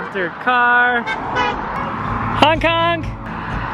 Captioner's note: honking